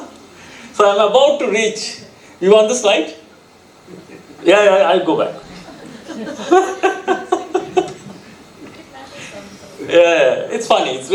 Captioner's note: chuckling